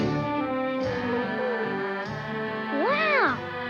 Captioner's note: Arrow whines